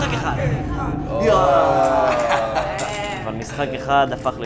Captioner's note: laughing